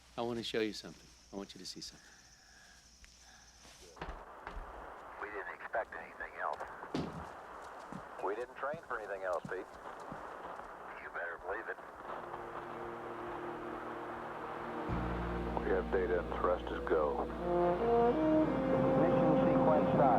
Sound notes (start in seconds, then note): 2.4 Seymour yawning; 5.0 Conrad over TV; 15.2 man over TV